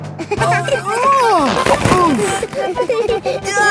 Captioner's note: giggling; grunting; giggling